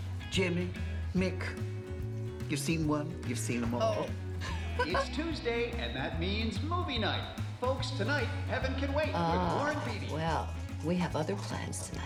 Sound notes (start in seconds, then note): 4.3 friends laughing